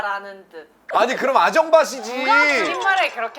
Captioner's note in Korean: 쒸익쒸익